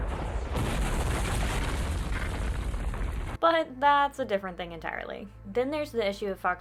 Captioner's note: explosion